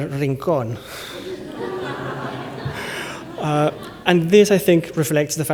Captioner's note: laughter